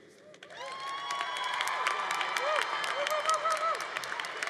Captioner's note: congregation cheering